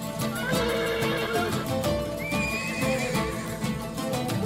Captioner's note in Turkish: At kişneme sesi